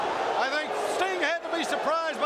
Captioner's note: crowd cheering